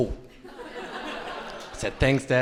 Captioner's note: crowd laughing